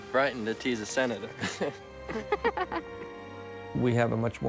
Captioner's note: both Laughing